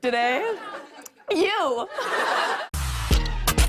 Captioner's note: laughter